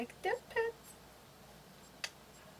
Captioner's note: kiss